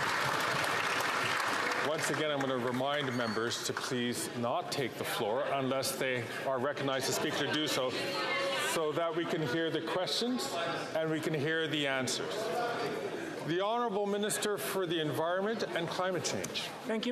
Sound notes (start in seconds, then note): 3.8 some Applause